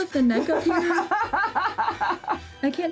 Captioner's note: laughing